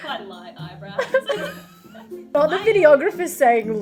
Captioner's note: laughs